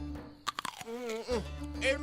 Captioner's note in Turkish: Isırma sesi